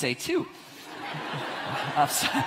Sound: audience laughs

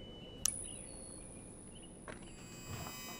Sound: birds chirping; lights buzzing; device chiming

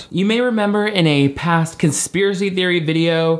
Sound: none

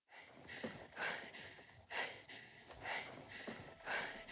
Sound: heavy breathing

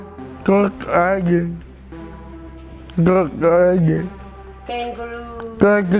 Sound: speaks in language

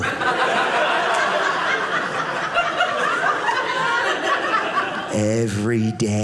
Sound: audience laughing

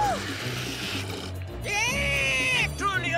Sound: cheering; shrieking

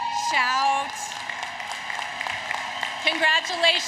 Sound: applause, Cheering

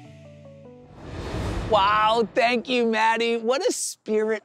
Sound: whoosh

